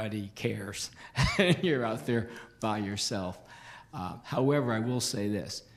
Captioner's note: laughs